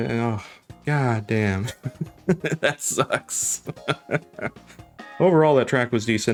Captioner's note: laughs